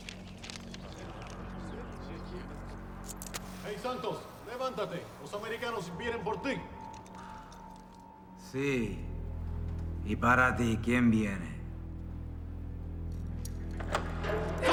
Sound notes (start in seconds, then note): 3.9 officers and Santos speaking Spanish